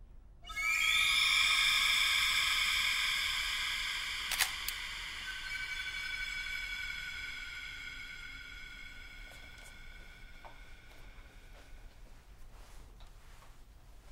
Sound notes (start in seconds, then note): 0.1 suspenseful music; 4.3 shutter sounds